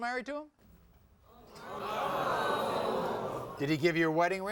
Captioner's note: audience vocalizing